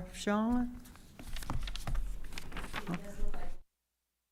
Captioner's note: papers rustling; audio cuts out